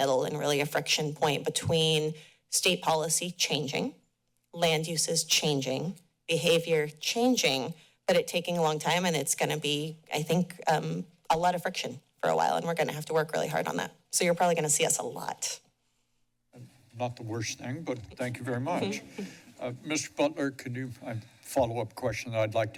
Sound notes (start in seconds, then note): 18.9 chuckles